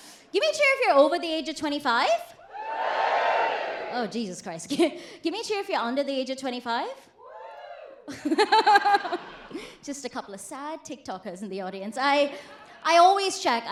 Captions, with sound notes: Give me a cheer if you're over the age of 25. (AUDIENCE CHEERS LOUDLY) Oh, Jesus Christ. Give me a cheer if you're under the age of 25. (QUIETER CHEER) Just a couple of sad TikTokers in the audience. I always check.